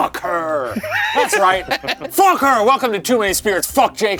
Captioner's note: laughing